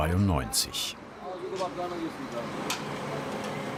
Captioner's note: indistinct conversations